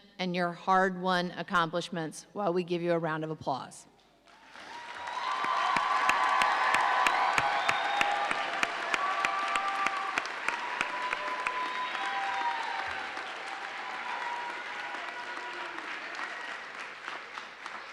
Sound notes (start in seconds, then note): 4.6 audience applauding; 8.1 audience cheering